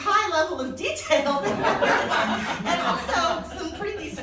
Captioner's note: laughing